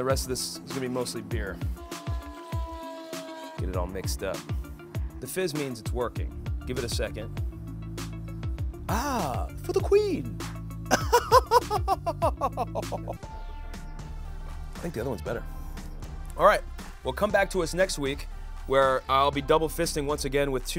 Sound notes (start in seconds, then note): 4.8 upbeat music; 10.9 laughing